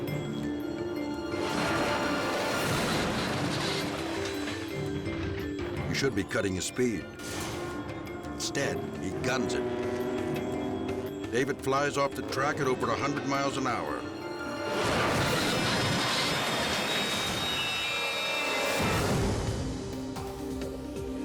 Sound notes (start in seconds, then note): 0.1 dramatic music; 14.5 motorcycle bangs; 18.1 dramatic music